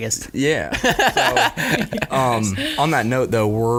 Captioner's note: laughing